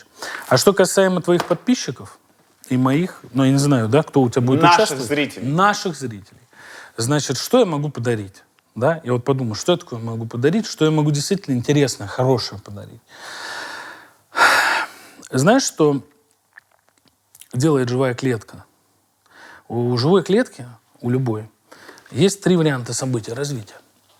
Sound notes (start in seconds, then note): 13.1 exhales